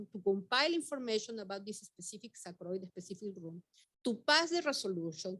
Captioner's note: speaking Spanish